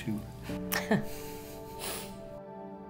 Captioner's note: couple laughing; soft music